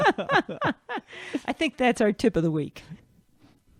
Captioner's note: laughing